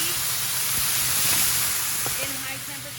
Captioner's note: sizzling